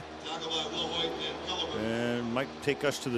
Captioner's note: pa announcement